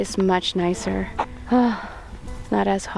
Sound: positive sigh

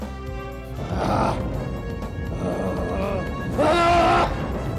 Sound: grunts

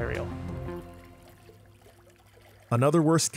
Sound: water swooshing

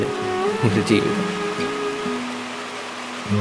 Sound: rain

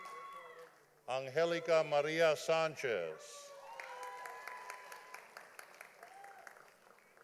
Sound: audience applauding

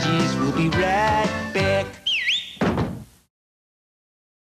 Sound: jingle; whistle

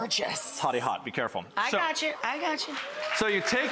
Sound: applause

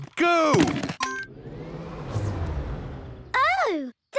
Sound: car chimes; whirring, whirring stops

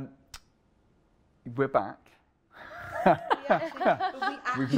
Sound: laughter

